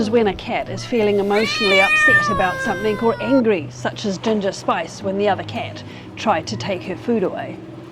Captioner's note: cat yowling